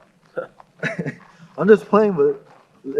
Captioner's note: chuckles